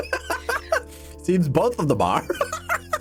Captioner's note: laughter